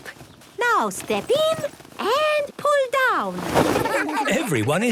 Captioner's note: laughter